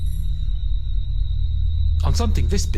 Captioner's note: machine beeps